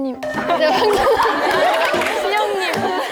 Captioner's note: cracking up